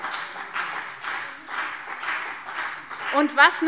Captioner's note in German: Beifall BÜNDNIS 90/DIE GRÜNEN und CDU